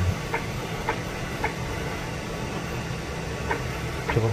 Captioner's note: printer machine noise